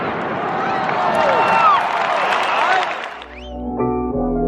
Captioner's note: cheering; upbeat music